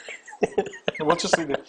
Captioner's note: laughing